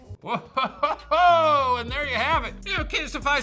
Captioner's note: chuckles